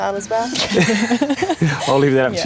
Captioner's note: laughter